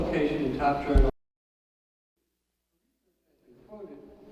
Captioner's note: audio cuts out